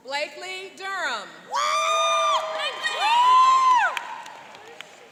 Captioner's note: cheering and applauding